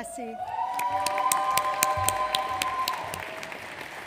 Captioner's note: audience applauds